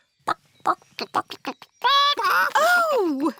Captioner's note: clucking